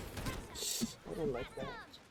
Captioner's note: rushing steam